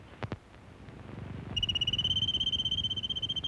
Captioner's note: whistling